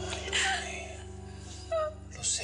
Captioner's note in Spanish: sollozos